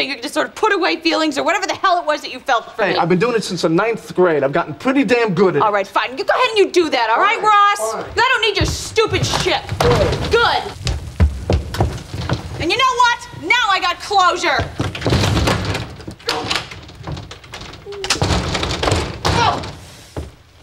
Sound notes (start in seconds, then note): 14.9 door slams; 16.3 locks clicking